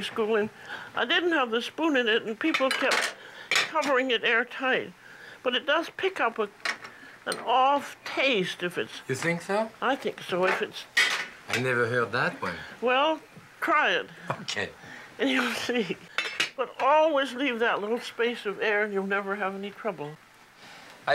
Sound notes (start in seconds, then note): 15.2 giggling; 15.3 chuckles